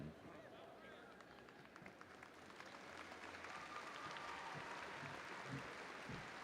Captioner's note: audience applauding and cheering